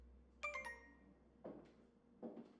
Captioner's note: phone chimes